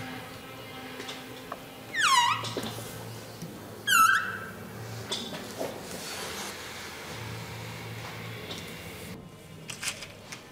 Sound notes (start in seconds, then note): 1.9 squeaking